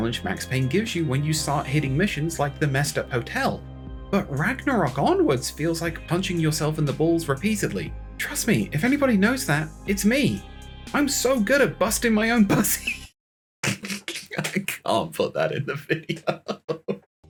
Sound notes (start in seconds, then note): 13.6 starts laughing